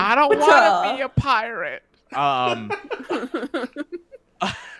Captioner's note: laughing